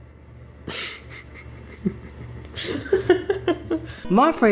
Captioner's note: laughs at his very funny joke